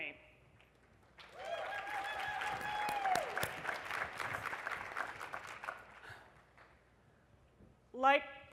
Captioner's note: applause